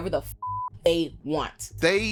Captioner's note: beep